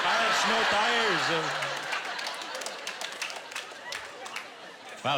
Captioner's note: laughter